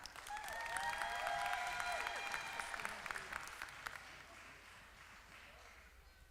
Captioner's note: applause